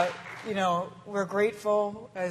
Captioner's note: applause